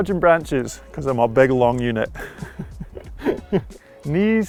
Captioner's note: giggles